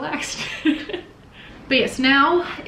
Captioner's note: laughs